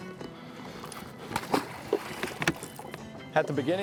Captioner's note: fish splashing